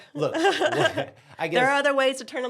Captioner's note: both laugh